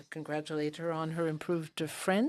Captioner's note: speaking in French